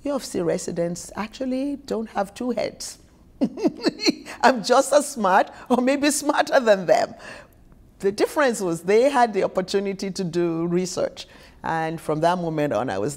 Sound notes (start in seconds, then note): 3.4 chuckles